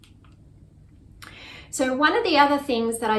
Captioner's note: mouse clicks